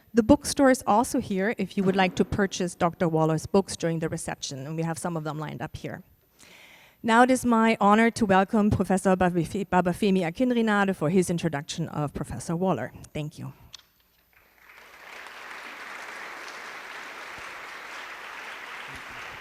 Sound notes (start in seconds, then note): 14.4 applause